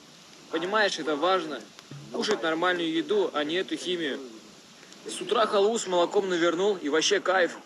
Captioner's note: Mike Tyson talking like a Russian man